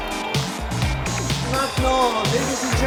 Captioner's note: presenter speaking French